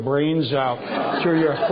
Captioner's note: laughter